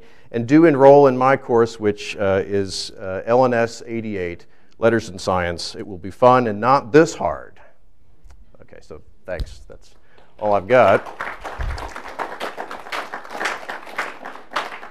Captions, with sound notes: And do enroll in my course, which is L&S 88 letters and science. It will be fun and not this hard. OK, so thanks. That's all I've got. [APPLAUSE]